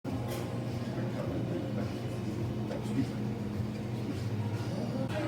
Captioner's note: restaurant nosies